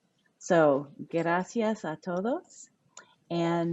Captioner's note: speaking a foreign language